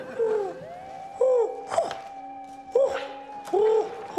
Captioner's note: hoots